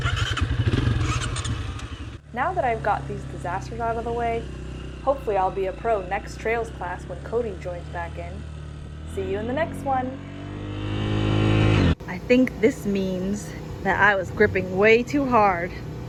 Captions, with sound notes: (bike engines revving) - Now that I've got these disasters out of the way, hopefully I'll be a pro next trails class, when Cody joins back in. See you in the next one! (bike engine roaring) I think this means that I was gripping way too hard.